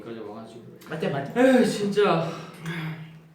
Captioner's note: sigh